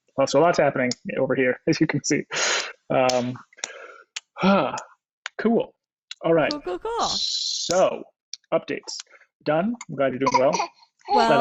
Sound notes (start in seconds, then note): 3.3 claps; 4.4 sighs